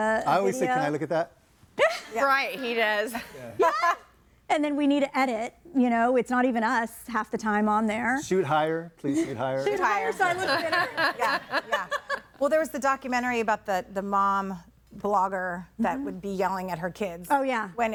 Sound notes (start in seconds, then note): 9.8 laughs